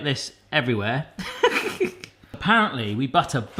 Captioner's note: laughing